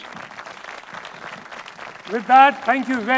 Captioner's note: audience applauding